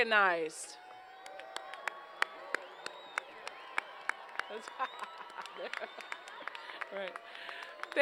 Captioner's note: applause